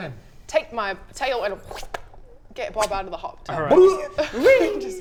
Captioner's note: whip